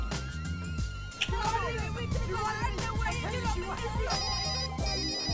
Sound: screaming in the background; phone ringing

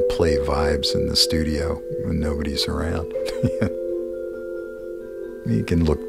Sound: chuckle

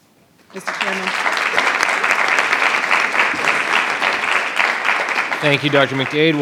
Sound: attendees applauding

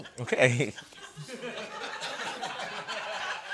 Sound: laughter

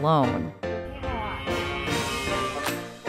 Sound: Cam yelling

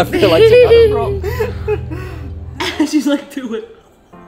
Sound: laughs

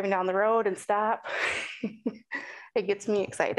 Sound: chuckling

